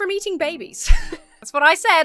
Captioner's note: laughs